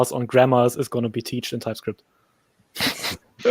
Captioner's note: chuckles